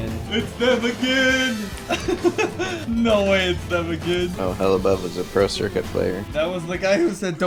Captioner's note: laughs